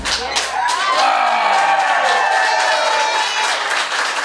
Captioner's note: crowd cheers